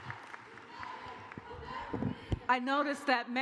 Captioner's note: cheers and applause